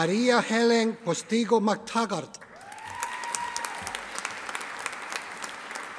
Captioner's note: audience applauding